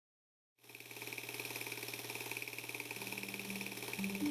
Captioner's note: film projector rattling; light thoughtful music